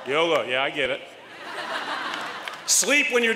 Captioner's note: laughter